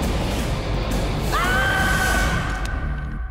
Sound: screaming

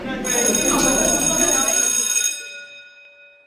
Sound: bell ringing

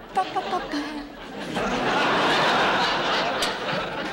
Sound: audience laughing

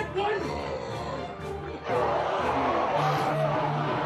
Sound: snarling

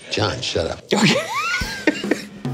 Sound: laughing

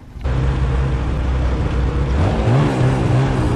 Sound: noises of running snow machines

